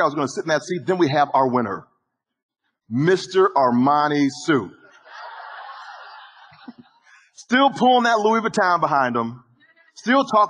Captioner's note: audience laughing